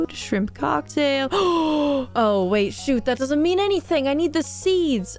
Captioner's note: gasp